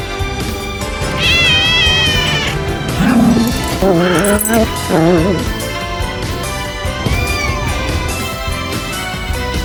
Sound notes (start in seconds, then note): 1.0 Caprice meows; 1.0 Ella growls; 7.1 Caprice meows